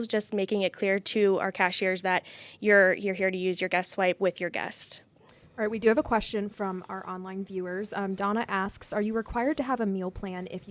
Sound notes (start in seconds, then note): none